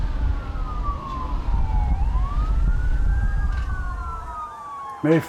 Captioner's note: fire roaring; sirens wailing